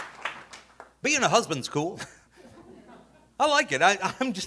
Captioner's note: audience laughing